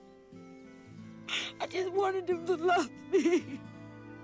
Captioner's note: sobbing